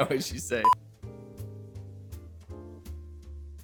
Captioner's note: beep